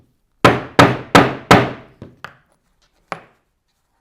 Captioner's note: mallet thudding